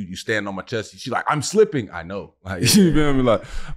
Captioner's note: chuckles